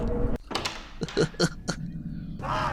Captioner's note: goofy laugh